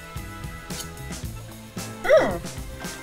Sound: eating

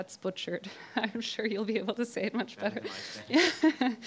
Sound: laughs

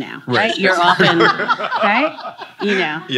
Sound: all laughing

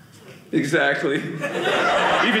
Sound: audience laughing

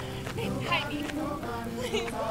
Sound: laughs

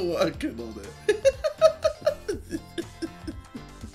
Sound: laughs

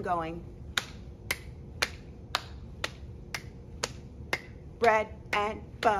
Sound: clapping

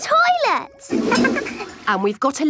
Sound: toilet flush

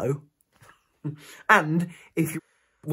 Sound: giggles

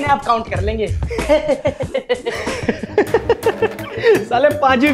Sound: laughing

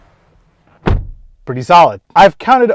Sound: car door slams

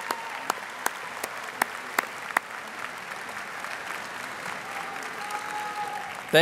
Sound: audience applauding and cheering

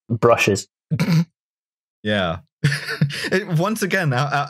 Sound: stifled snort; laughs

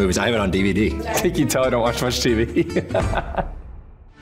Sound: laughs

